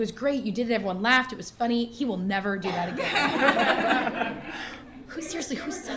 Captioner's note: laughter